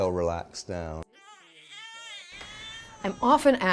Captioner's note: baby crying